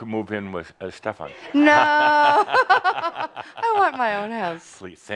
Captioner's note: they chuckle